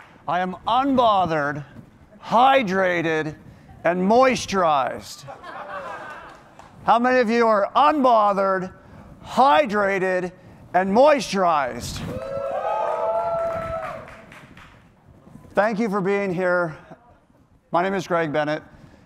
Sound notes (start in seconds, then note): 5.2 laughter; 12.0 cheering